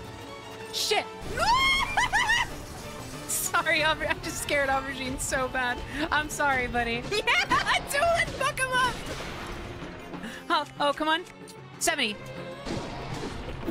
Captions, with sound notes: Shit! [Terrified Screaming] Sorry Auber- I just scared Aubergine so bad. I'm sorry, buddy. Yea-ha-ha, Tulin, fuck him up! Oh- Oh come on...? 70!